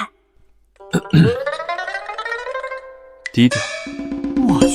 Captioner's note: cough